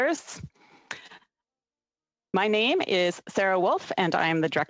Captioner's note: speaking French